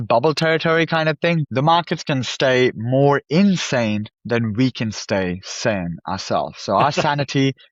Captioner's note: laughs